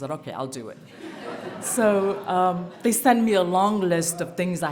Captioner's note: laughter